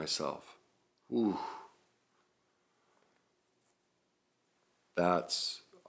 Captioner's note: sighs